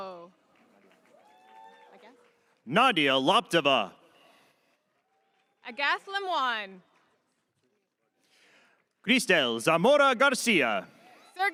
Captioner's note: cheers and applause